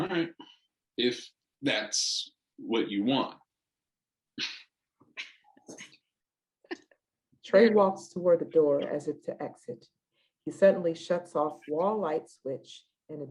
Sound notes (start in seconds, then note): 4.7 both giggling